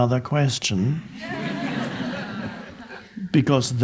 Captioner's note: audience laughing